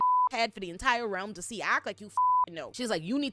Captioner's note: beep; beep